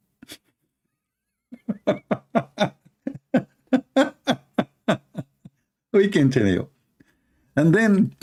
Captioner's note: Ketawa